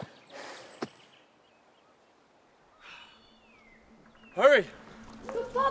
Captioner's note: birds chirping